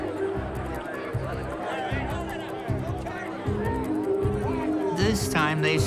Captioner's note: people talking in background